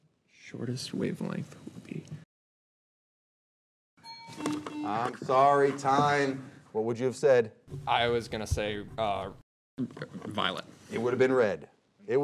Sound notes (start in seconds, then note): 4.0 alarm clock ringing; 4.1 buzzer beeping